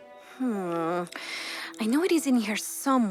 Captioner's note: Lienda sighs